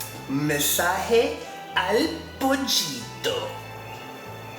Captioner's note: speaking in spanish